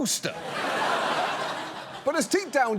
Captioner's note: audience laughs